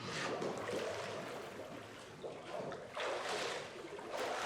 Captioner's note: bubbling